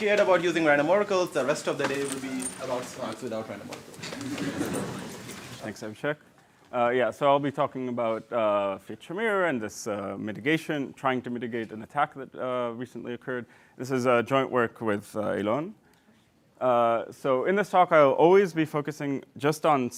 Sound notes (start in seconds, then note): 4.2 laughter